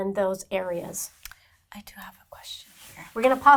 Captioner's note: whispers